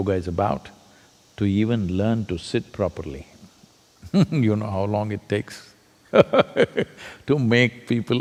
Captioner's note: laughs